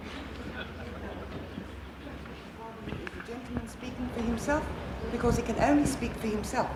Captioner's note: laughter